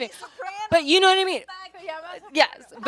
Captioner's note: speaks Spanish